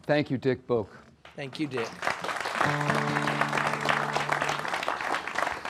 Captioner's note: applause